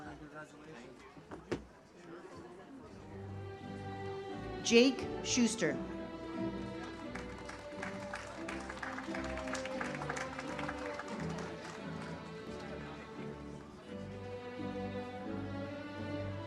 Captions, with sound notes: - Jake Schuster. (audience applauds) (uplifting music)